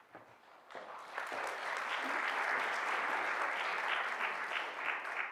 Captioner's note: audience clapping